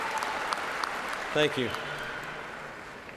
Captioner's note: cheers and applause